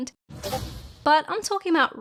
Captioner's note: Discord sound